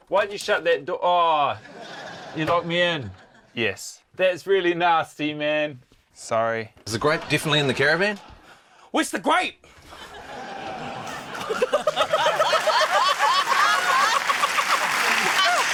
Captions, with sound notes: - Why did you shut that door? Oh! You locked me in. - Yes. - That's really nasty, man. - Sorry. - Is the grape definitely in the caravan? - Where's the grape? (LAUGHTER, APPLAUSE)